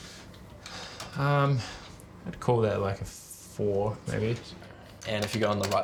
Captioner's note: keys tap; sighs